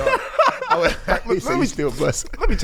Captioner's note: laughing